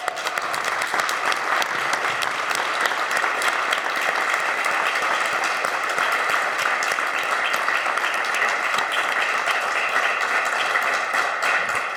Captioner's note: applause